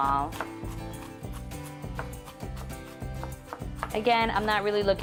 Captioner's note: chopping into garlic